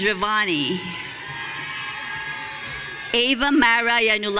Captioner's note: audience cheering